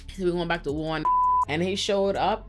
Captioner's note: beep